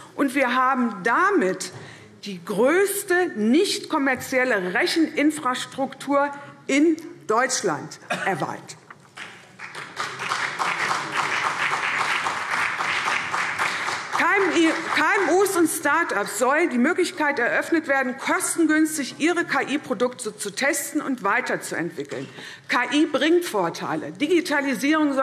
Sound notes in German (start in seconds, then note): 7.1 Beifall CDU und vereinzelt BÜNDNIS 90/DIE GRÜNEN